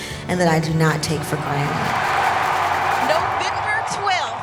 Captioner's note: crowd cheering and clapping